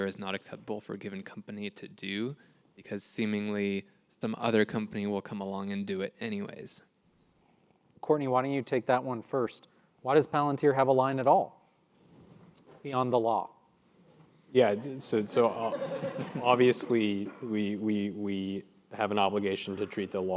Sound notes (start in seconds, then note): 13.4 laugh